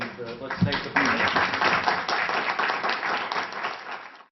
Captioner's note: applause